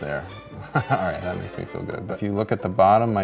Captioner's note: laughter